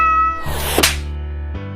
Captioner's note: hisssss; smack